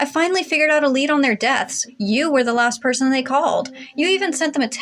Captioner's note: none